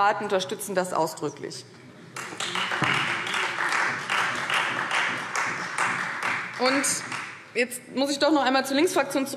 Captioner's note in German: Beifall Freie Demokraten